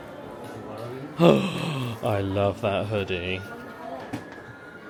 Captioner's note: sighing